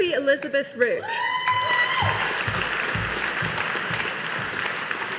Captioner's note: audience applauding